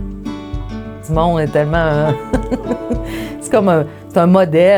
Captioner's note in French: Petit rire